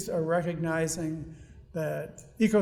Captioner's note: none